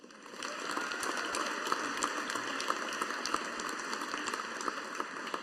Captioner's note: audience applauding